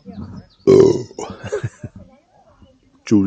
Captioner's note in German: Rülps